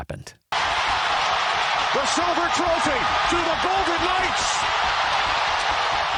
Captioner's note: applause